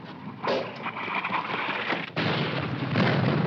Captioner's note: rustling winds; bomb exploding